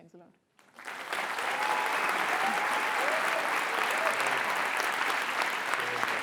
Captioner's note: cheers and applause